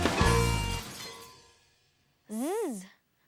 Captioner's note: music ends; makes "z" sound; makes double-o, "oo" sound